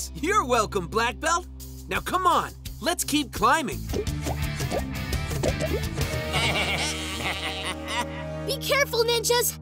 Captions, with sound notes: You're welcome, Blackbelt. Now come on, let's keep climbing. [laughing] Be careful, ninjas!